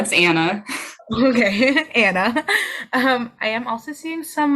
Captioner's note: laughs